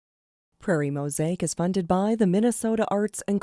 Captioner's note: voiceover